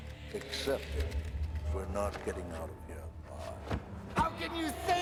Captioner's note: calm voice; panicked voice